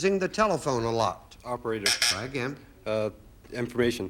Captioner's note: buzzer sounds